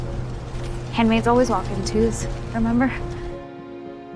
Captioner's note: voiceover